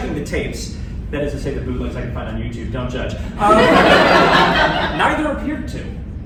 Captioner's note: laughter